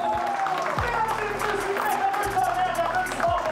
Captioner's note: applause